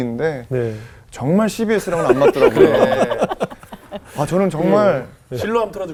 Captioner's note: laughing